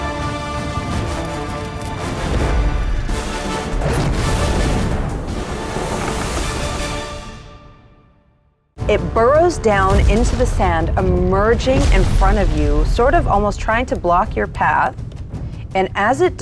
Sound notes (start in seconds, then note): 4.1 flame roars; 5.4 dramatic music